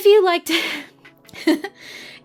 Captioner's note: chuckles